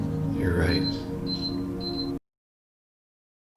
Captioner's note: beeping